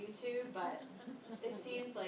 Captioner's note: laughter